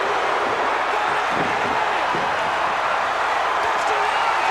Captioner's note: crowd's roar drowns out commentary